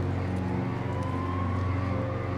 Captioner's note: siren wailing in distance